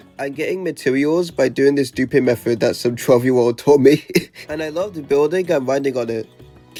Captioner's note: laughs